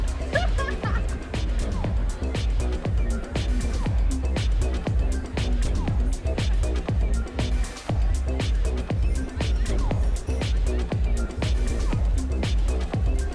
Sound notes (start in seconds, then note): 0.2 all laughing; 1.1 people chattering; 3.4 upbeat music